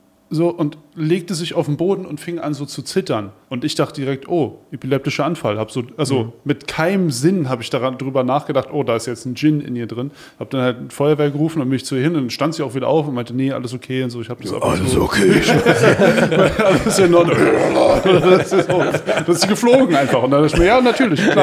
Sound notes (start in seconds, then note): 15.6 düster knurrend; 16.9 Lachen